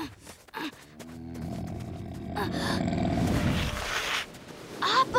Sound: grunting; Appa grunting

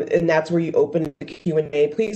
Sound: none

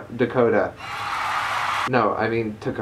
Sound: applause

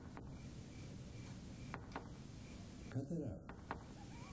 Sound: rhythmic tapping

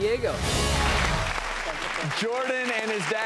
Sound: audience applauding

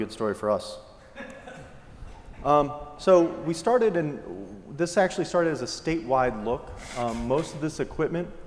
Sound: laugh

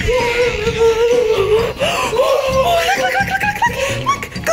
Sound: family cheering

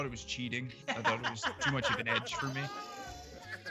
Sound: laugh

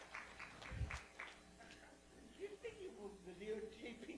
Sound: applause

